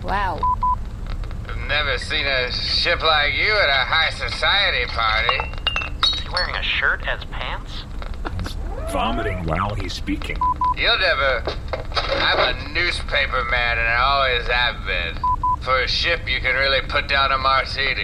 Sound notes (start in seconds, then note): 1.0 drunkenly slurring; 3.9 hic; 12.1 hic